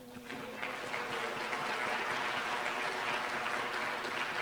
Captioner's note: applause